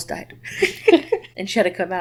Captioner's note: laughing